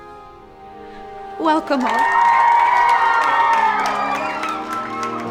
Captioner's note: campers cheering